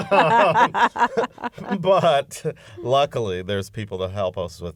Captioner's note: laughter